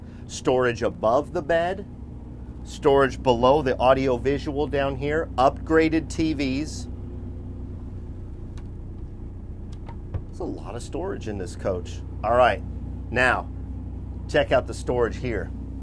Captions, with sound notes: Storage above the bed. Storage below the audio-visual down here. Upgraded TVs. (cupboard closing) That's a lot of storage in this coach. All right, now, check out the storage here.